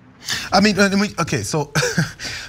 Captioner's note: laugh